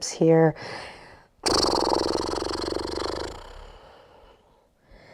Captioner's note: audibly exhales